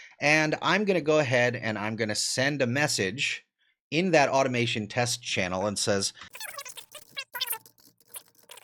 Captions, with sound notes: And I'm gonna go ahead and I'm gonna send a message in that automation test channel and says... (sped-up audio)